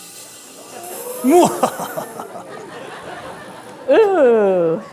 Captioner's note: maniacal laughter